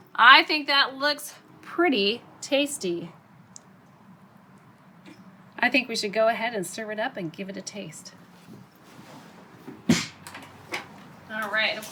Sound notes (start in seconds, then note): 9.8 bucket slamming